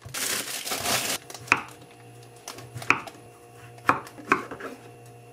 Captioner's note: softly chopping the king oyster mushrooms